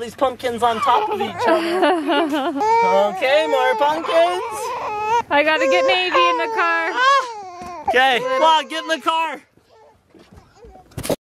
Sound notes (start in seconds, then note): 5.4 crying; 11.0 trunk closing